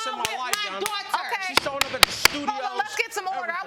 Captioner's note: gavel banging